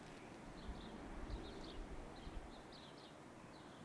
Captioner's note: birds chirping